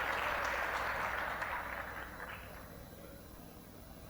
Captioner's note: applause, cheering; applause